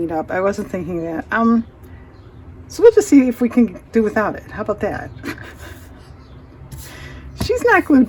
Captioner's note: laughs